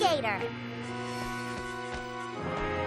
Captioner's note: buzzing